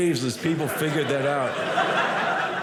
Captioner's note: audience laughing